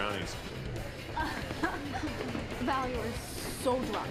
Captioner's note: woman laughing